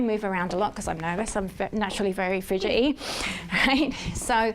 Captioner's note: laughs